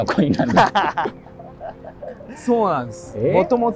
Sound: laughing

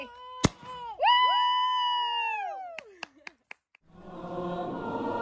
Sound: confetti cannons pops; cheering

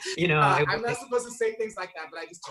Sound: laughing

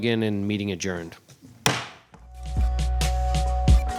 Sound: gavel bangs; gentle music

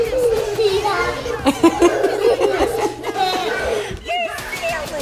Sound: laughs

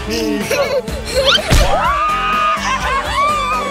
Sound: laughing; thudding; everyone cheering

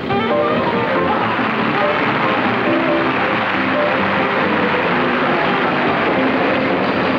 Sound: audience applauding

